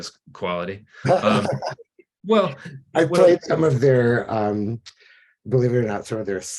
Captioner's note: laughs